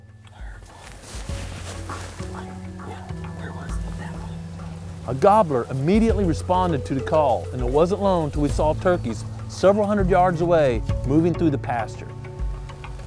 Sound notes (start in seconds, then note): 0.7 whispering